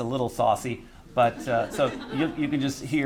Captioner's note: laughter